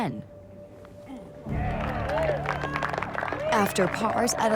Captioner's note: crowd cheers